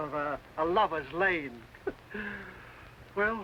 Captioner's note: chuckles